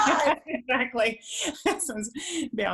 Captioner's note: laughing